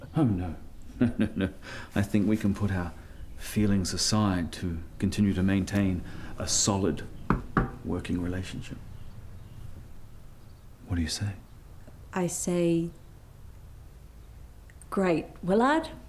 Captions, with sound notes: Oh, no No, no, no... I think we can put our, Feelings aside to continue to maintain a solid *knocks table* Working relationship What do you say? I say - Great, Willard